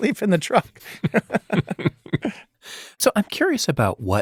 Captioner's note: both chuckling